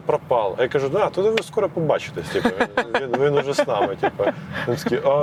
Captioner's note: laughs